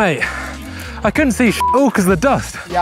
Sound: beep

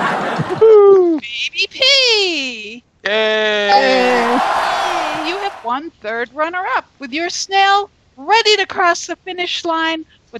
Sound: cheers and Applause

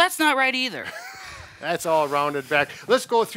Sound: laughs

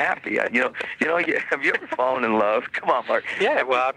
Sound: chuckling

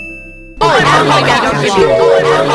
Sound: group complaining

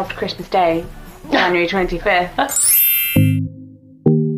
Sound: laughs; sparkling sfx

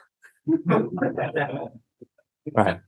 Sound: laughing

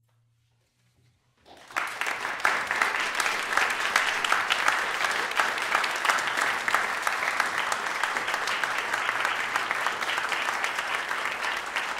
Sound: applause

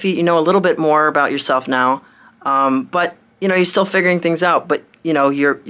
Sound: none

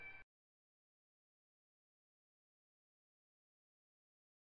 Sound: silence

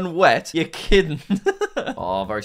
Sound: laughs

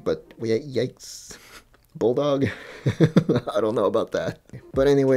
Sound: laughs

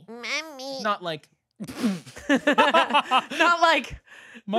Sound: everyone laughing

